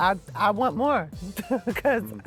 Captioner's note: chuckles